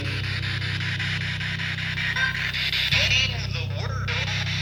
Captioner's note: spirit Box buzzing